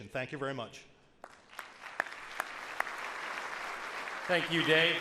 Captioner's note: audience applauds